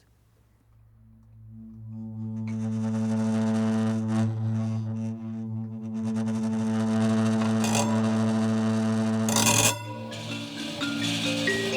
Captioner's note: metal resonating